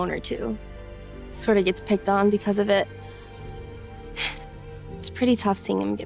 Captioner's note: sighs